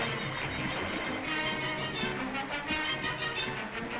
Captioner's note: water splashes